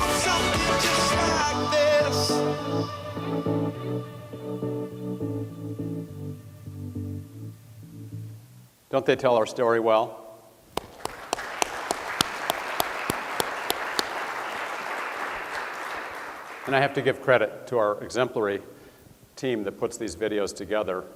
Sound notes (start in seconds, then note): 10.8 audience applause